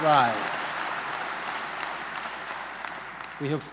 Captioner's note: applause